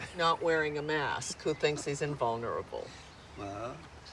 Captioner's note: Chris chuckling